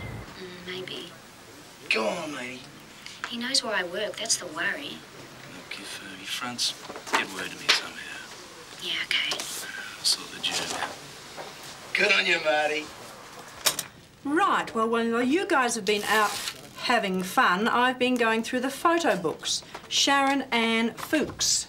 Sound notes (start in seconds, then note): 12.1 tape stops